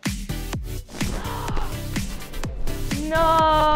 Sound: gasps

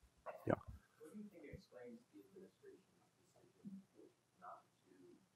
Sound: man speaks softly

